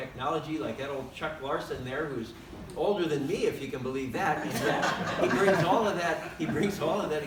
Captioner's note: laughter